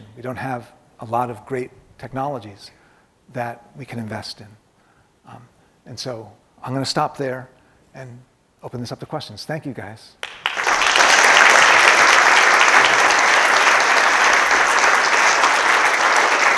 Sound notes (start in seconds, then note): 10.2 audience applauding